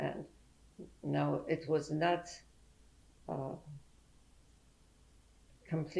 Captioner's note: pauses for 3 seconds